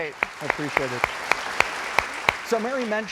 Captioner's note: crowd applauds